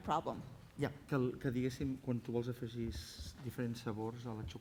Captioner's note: non-english speech